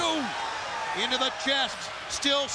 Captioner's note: Scott exclaims